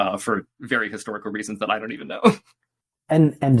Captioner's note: laughs